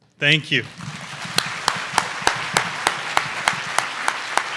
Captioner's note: audience applause